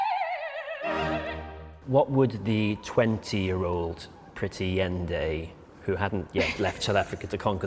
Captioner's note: laughter